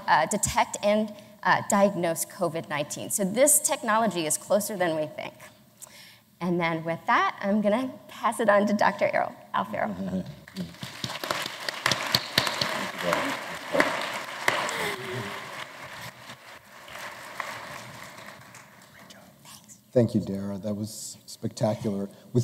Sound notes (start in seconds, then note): 10.5 applause